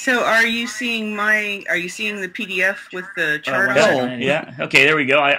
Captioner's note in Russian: смеется